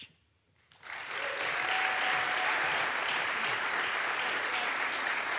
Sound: audience applauds

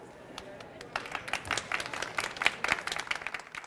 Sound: applause

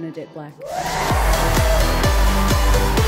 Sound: cheering and applause

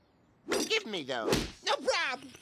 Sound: loud slap

